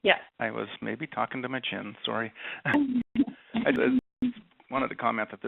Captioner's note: laughs